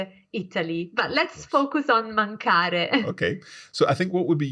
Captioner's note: laughs